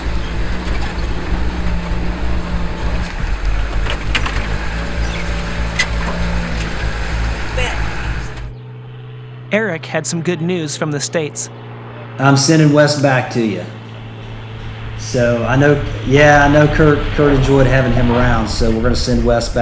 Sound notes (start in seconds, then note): 7.4 airplane sound in distance